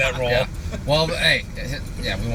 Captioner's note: laughter